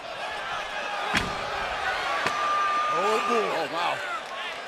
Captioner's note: crowd cheering